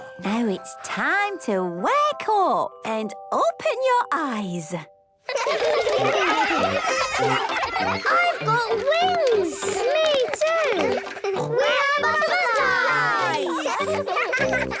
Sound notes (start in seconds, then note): 6.2 excited laughter